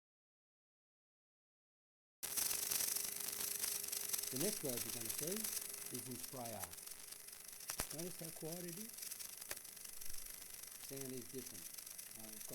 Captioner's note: welding sound - spray arc